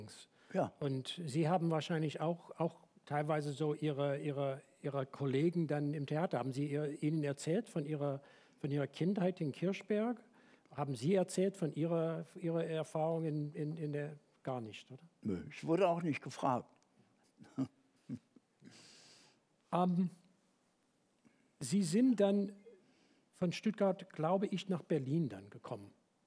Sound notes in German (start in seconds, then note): 17.4 lacht